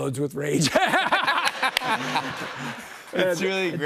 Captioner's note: laughter